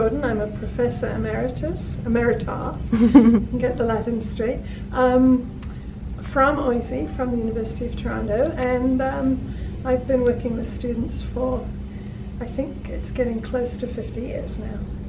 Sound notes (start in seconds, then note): 2.9 chuckles